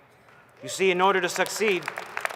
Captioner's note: applause